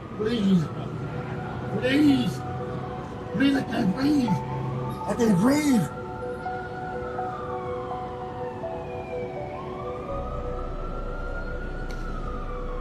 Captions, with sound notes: - Please, please I can't breathe. (police sirens)